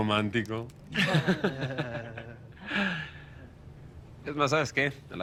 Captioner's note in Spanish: Risas